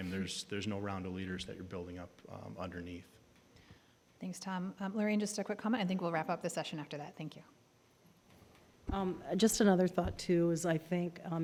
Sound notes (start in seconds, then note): none